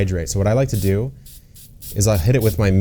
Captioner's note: spray bottle spritzing